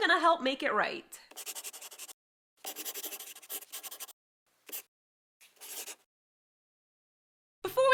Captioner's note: the sound of a pen scratching. LOGO